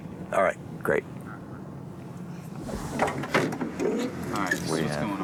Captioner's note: on phone